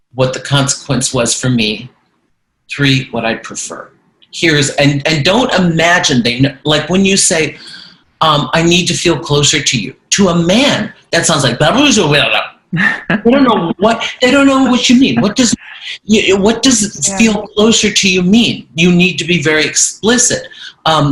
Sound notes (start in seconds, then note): 12.8 grumbles incoherently; 12.9 laughing